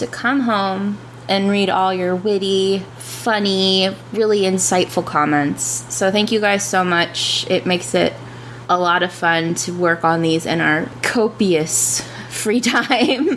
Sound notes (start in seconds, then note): 10.2 sarcastically